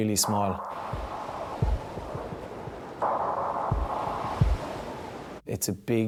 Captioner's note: waves roar; dramatic music